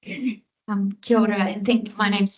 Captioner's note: speaking Te Reo Māori